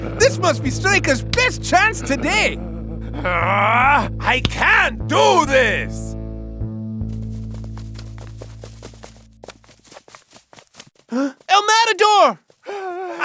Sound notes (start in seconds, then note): 2.0 growls frustratingly